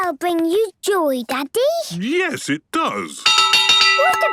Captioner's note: clanging